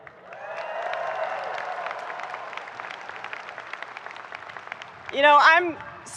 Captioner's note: audience cheering and applauding